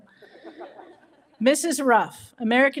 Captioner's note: audience chuckles